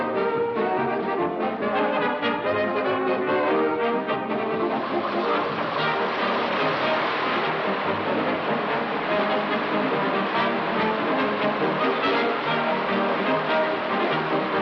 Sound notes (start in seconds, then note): 0.1 bright upbeat music continues; 5.4 air whooshing